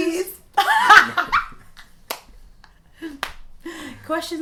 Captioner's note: laughing